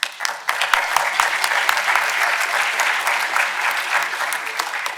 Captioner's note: audience applauding